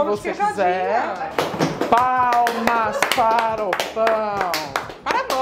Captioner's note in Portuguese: palmas